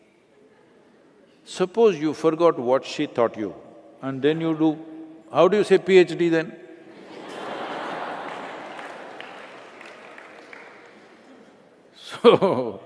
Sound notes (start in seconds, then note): 6.9 Laughter/Applause